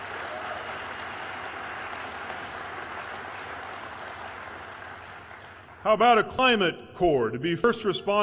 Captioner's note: cheers/applause